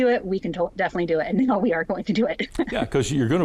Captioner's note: laughs